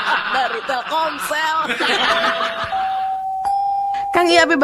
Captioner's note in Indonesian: tertawa